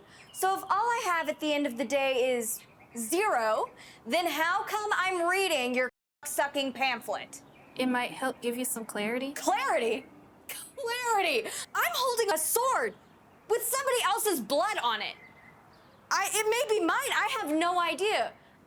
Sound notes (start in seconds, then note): 10.6 scoffs